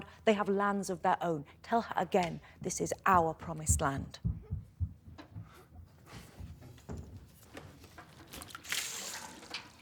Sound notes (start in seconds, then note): 3.0 someone runs down the stairs